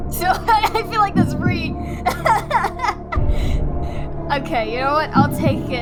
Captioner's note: laugh